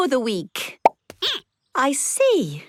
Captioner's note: squeaking